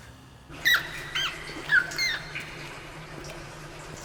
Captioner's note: rat squeaking